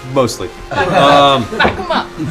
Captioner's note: laughter